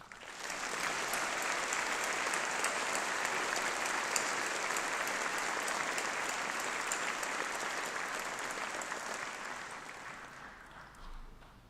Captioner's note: applause